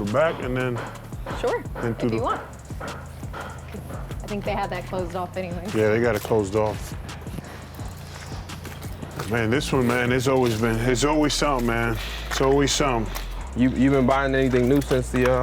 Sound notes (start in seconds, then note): 13.6 laughs